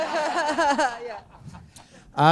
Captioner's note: chuckle